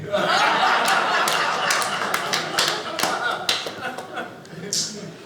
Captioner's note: audience laughing; audience applauding